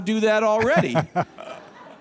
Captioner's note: laughter